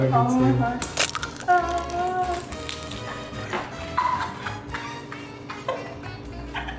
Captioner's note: laughs